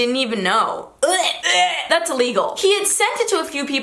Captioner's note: gagging